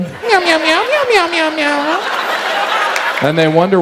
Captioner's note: meowing repeatedly